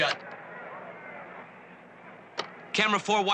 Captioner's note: people chattering